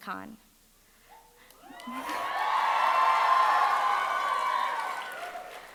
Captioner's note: audience cheering